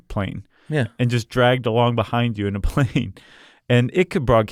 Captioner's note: laughs